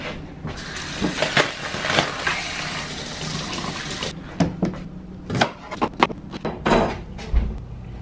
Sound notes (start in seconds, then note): 0.6 water running; 4.4 chopping sound